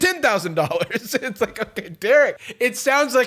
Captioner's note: laughing